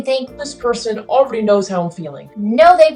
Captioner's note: low voice